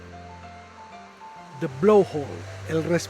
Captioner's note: sound of the waves